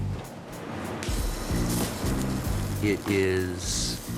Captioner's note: pan sizzling